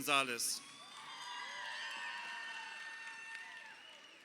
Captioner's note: crowd cheering